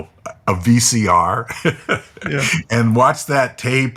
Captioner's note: laughing